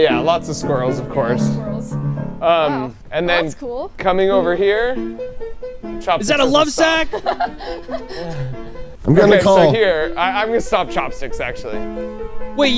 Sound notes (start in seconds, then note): 4.5 upbeat music; 7.0 laughing